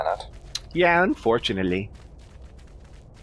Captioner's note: tuts